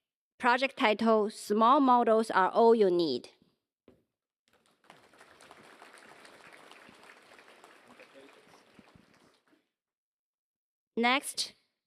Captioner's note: applause